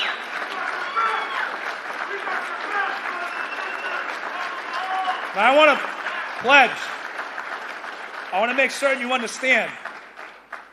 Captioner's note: applause